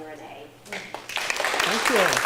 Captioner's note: applause